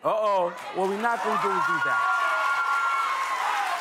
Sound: audience cheering

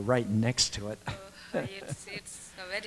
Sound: laughs

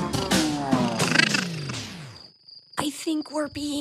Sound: music fades; crickets chirping; monster chattering

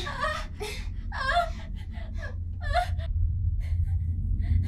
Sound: Morgan sobbing

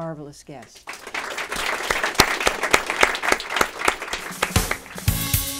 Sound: applause

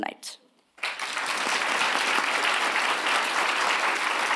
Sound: audience applauding

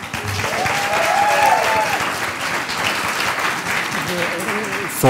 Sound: cheers and applause

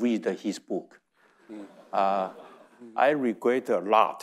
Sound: audience chuckling

